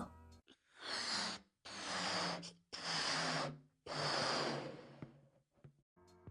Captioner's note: inflating balloon